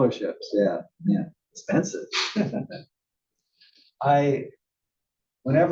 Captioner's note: laugh